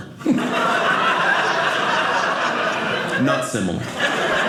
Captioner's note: audience laughing